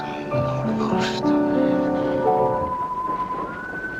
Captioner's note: eerie whistling